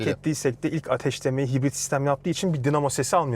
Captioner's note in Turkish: boğazını temizler